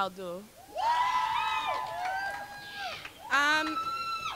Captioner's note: crowd cheering